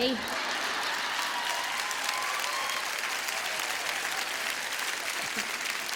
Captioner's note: audience clapping and cheering